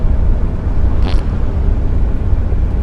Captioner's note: suppressed fart